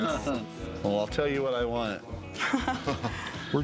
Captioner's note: laughter